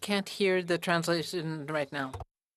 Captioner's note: speaking French